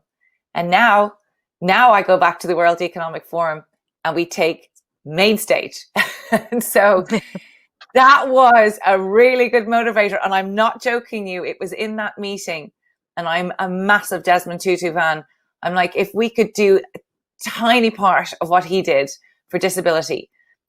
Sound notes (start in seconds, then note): 7.0 laughs